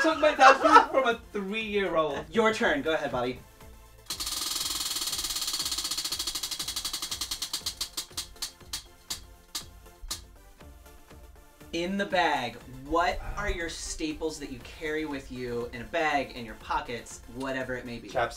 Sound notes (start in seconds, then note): 4.0 roulette spinning